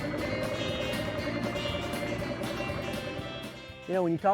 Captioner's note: boat motor idles